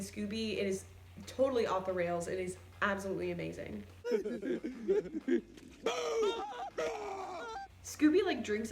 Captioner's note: both laughing; Shaggy screams